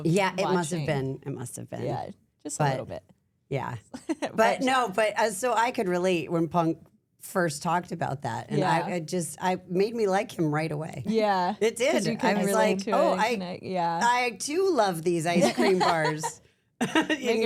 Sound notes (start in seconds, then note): 3.4 laughs; 15.4 laugh; 16.8 laughs